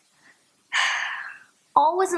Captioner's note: sigh